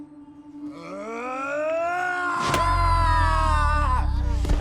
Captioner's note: Jeff yelling